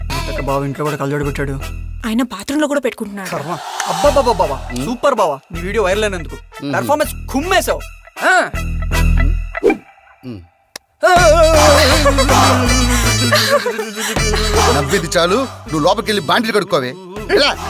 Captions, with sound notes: Why is he wearing goggles at home? He wears them in the bathroom too. Oh God! You are fantastic. Your video has gone viral. You nailed the performance. (Hysterics) - (Laughs) Stop laughing. Go inside and do the dishes. Go.